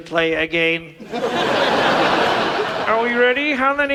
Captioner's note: audience laughs